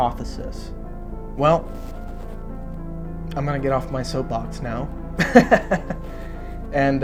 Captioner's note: laughs